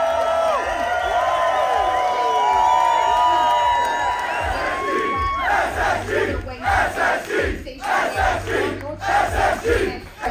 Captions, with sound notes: - [Crowd] SSG, SSG, SSG, SSG, SSG!